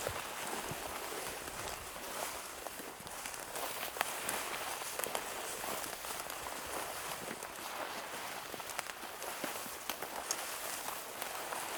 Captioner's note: walking noises